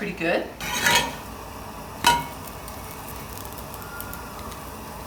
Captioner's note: spatula scrapes against pan